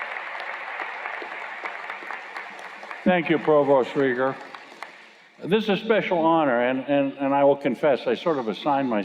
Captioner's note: applause